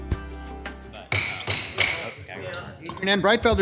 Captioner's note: gavel clonking